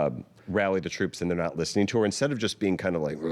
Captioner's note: grunting